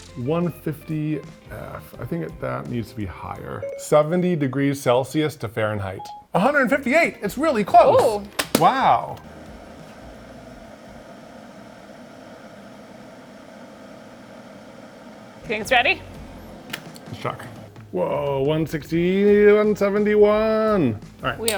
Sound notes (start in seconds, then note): 9.5 kettle humming